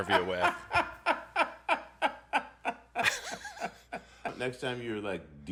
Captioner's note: laughing loudly